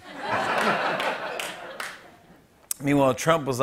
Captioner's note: laughter